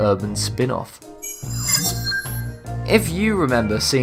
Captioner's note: sharp chiming